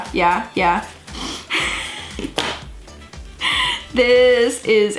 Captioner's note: laughs